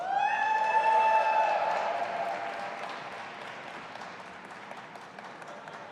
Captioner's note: audience applauding and cheering